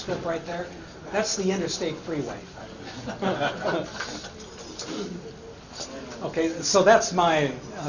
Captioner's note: laughter